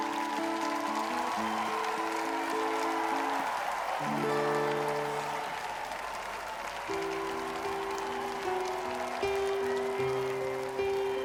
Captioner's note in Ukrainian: оплески